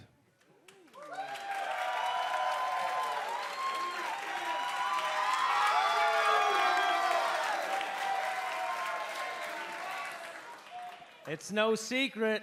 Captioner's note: crowd cheering